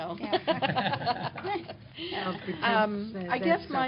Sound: laughter

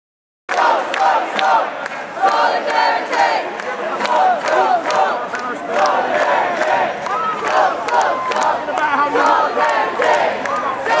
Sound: crowd chanting, and clapping

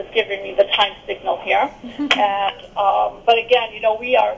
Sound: laughs

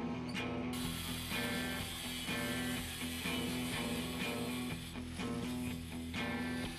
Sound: saw buzzing

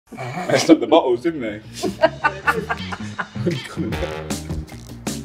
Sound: laughter

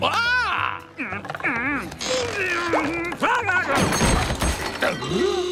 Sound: grunting

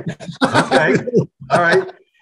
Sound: both laughing

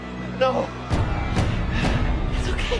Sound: breathes heavily

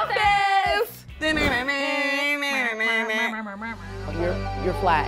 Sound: humming

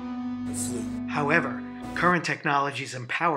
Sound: voiceover

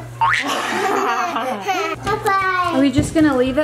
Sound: people laughing

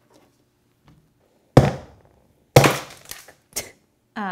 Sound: loud smashing noises

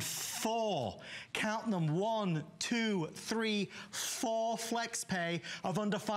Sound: counting

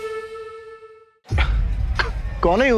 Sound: chuckling

